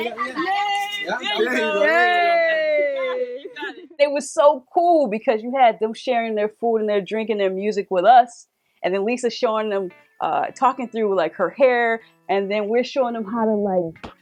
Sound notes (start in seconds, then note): 2.3 cheering